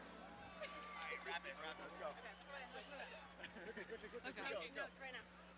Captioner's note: indistinct overlapping chatter